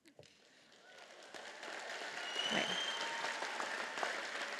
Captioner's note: audience applauding